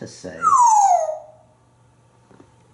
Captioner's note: birdie sound